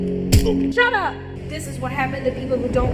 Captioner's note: kick thudding